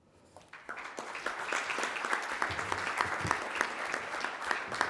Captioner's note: audience applauding